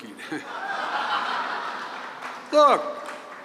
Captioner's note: laughter